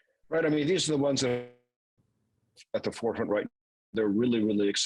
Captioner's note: voice cracks